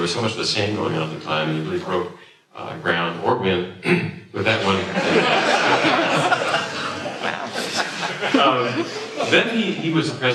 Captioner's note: laughter